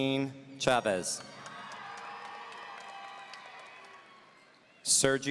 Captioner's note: audience cheering